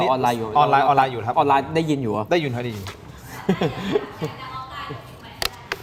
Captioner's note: laughter